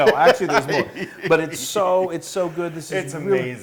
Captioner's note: laugh